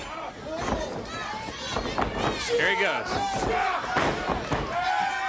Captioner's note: crowd chatter